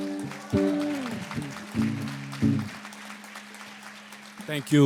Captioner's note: applause